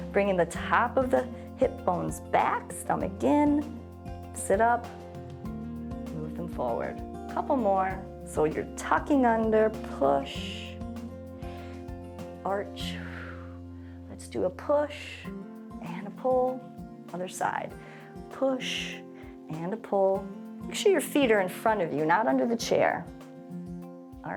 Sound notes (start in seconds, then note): 13.0 exhales